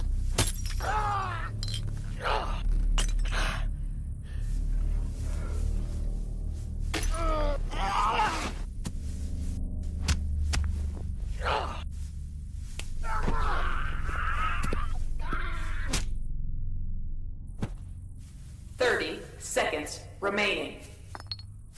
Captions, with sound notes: [glass bottle shatters] Argh! Ugh... ah [glass shattering] Ahhh! Ugh arrrghaaaa, aaaah (computer over speaker) 30 seconds remaining